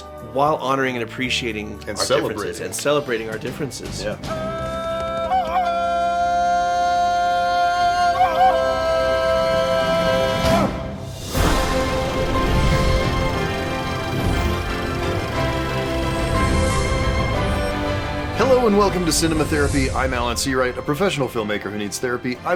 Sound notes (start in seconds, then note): 7.4 jungle yell